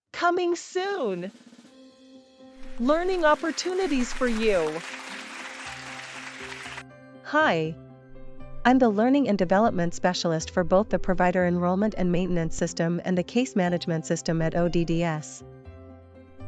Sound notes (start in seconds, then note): 0.8 FX - Drum - Roll - 02; 2.7 FX - Applause